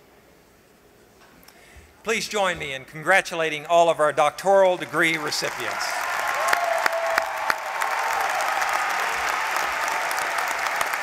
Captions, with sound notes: Please join me in congratulating all of our doctoral degree recipients. [APPLAUSE]